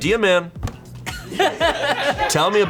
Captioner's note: colleagues laughing